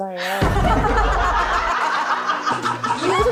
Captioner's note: familiar laugh